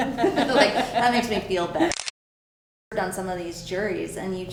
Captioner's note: camera clicks